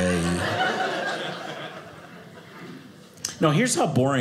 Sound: audience laughing

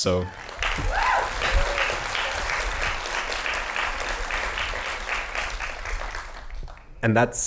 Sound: applause

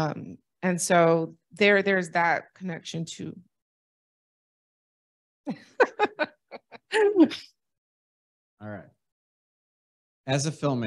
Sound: laughter

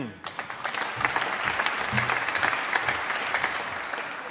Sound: applause

